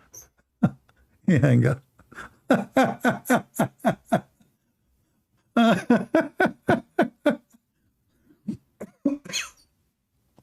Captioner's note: Ketawa